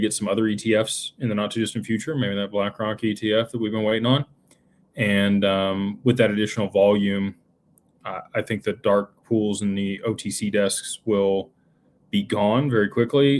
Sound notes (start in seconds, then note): none